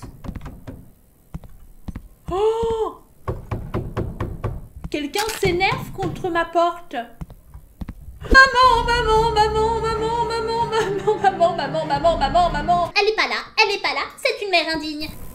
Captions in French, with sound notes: *toc toc plus fort* *gros toc toc* Quelqu'un s'énerve contre ma porte ! Maman ! Maman ! Maman ! Maman ! Maman ! Maman ! Maman ! Maman ! Maman ! Maman ! Maman ! Elle est pas là, elle est pas là, c'est une mère indigne !